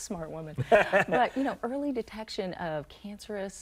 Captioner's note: man laughing